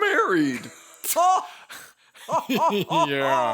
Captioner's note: Phasma and Ben laugh